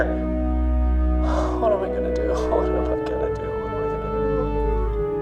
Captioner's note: Web sighs